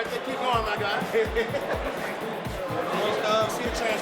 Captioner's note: laughs